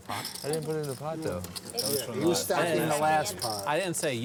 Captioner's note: chattering